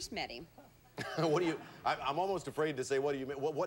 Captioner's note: audience laughing